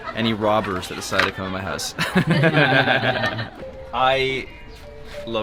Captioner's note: laughs